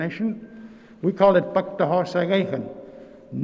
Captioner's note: speaking in Nêhiyawêwin